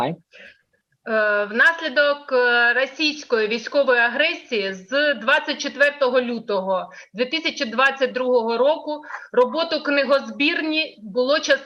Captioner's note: foreign Language